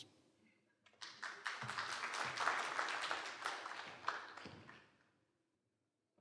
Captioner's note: applause